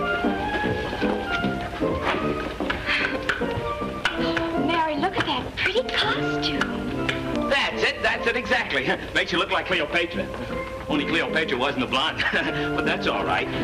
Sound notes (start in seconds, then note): 2.7 Mary and Pauline chuckle; 12.1 laughs